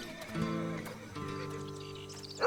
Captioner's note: dog barking